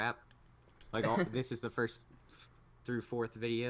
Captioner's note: laughs